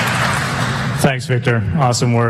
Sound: applause

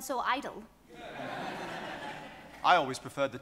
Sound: audience applauds

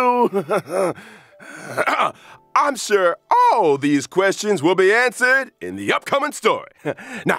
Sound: sigh

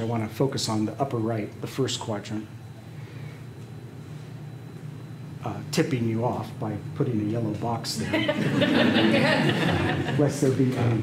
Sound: laughter

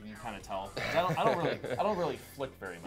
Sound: laughing

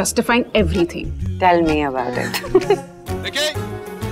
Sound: both laugh

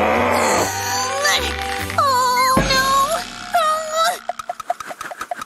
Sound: grumbles

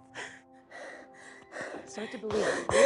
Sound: breathing heavily; sobbing

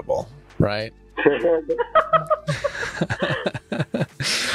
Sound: both laughing

